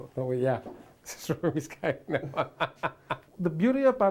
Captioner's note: laughs